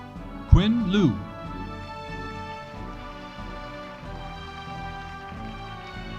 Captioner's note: audience applauding